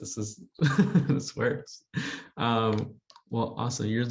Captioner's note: chuckles